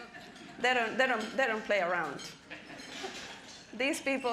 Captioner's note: audience chuckling